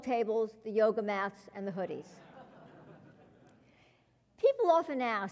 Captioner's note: laugh